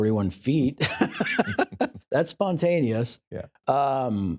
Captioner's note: laughs